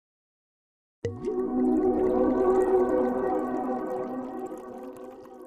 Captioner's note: liquid pouring